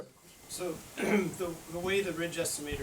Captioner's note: clears throat